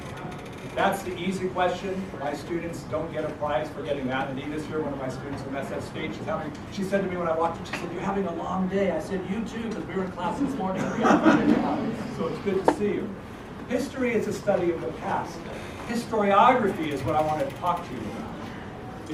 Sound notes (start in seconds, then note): 10.3 laugh